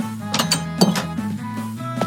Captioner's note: door opens & closes; footsteps